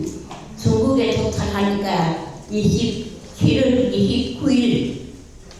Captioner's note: speaking in foreign language